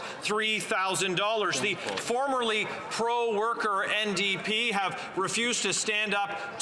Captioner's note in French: voix de l'interprète